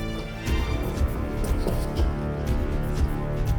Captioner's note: footsteps